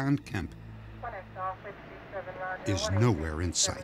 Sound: police radio chatter

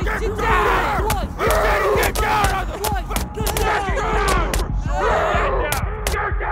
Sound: guards screaming 'GET DOWN SIR, STAND DOWN, etc; Guards yelling, Bugg crying

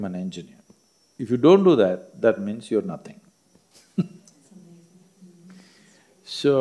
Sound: laughs

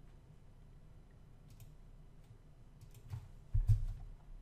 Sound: clicking

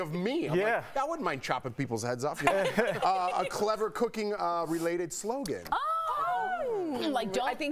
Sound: laughter

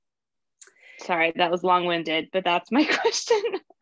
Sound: laughter

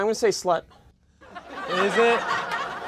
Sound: laughter

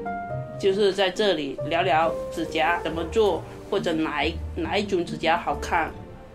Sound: speaking Mandarin

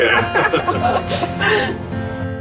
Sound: laughing

